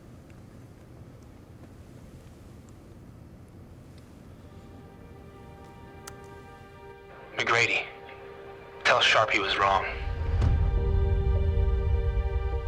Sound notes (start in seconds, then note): 4.5 brooding music; 6.0 button clicks